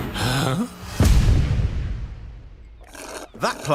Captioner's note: explosion blasts